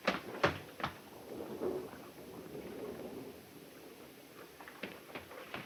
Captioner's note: thunder rumbling